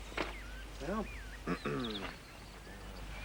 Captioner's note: clearing throat